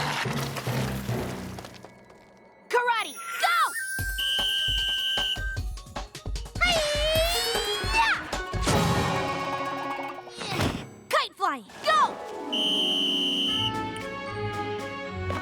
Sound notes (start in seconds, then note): 3.1 whistle blows; 8.4 thud!; 12.4 whistle blows